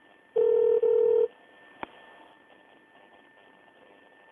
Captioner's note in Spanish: Tono de teléfono